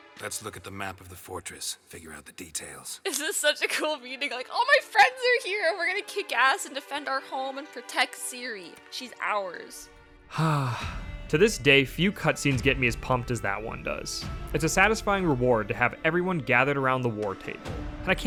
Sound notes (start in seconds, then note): 10.3 sigh